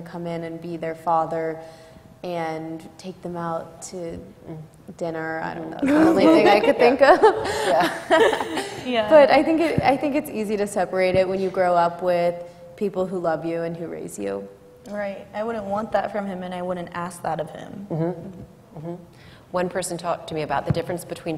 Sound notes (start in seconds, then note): 5.9 laughter; 5.9 laughs